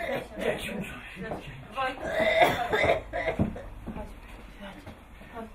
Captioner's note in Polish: kaszel